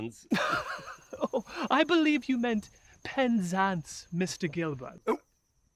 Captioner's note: laughing